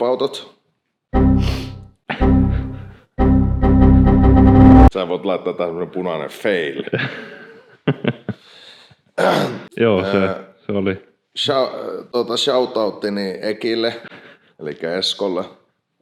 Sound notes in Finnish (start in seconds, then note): 9.2 naurua